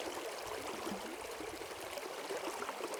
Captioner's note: river gurgling